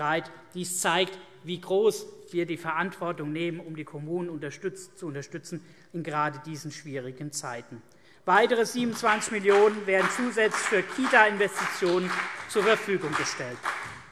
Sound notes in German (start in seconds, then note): 8.3 Beifall CDU und BÜNDNIS 90/DIE GRÜNEN